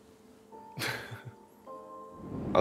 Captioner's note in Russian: смеётся